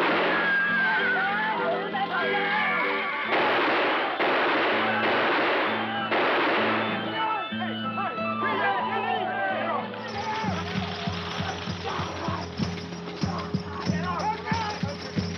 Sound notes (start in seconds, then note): 0.1 gunshot bangs; 3.2 gunshots banging; 7.8 Apaches clamoring and yelling